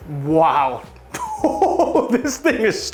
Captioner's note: laughs